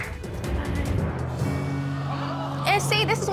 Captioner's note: audience exclaims